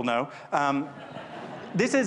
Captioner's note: laughter